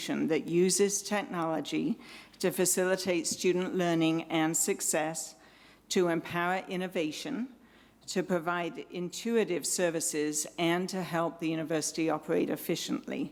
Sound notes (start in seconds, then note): none